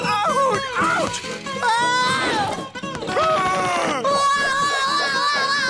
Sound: screaming

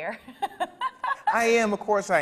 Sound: laughs

